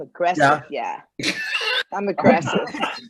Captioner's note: everyone giggling